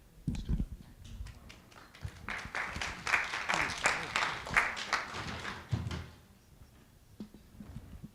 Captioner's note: applause